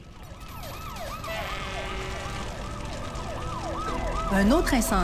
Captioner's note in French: vives sirènes de pompiers et de police